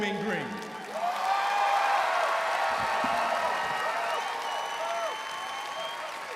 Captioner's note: audience cheering and applauding